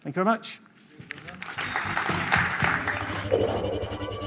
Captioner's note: applause